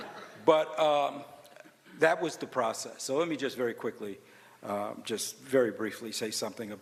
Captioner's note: laughter